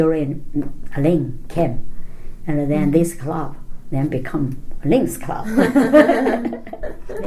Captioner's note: all laugh